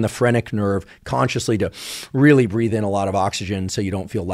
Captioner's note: inhales